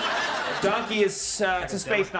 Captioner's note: audience laughing